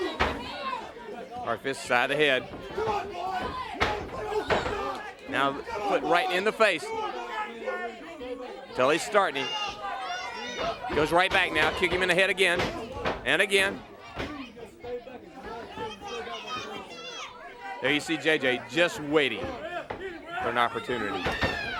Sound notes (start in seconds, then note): 6.4 crowd chatter; 18.5 crowd chatter